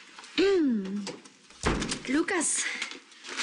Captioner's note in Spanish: Carraspea